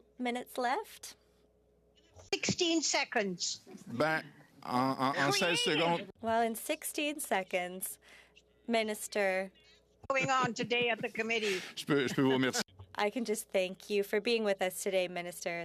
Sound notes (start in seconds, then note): 10.2 speaking French